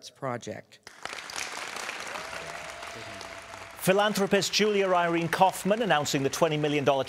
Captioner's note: applause